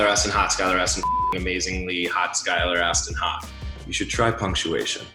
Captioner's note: beep